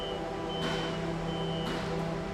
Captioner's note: machine beeping